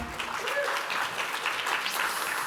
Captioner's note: applause